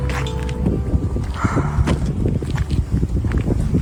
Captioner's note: sigh